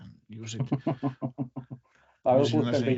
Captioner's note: laughs